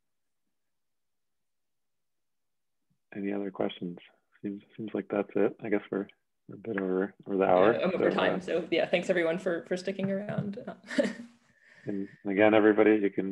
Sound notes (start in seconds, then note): 10.8 chuckles